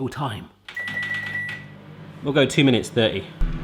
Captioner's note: beeping sound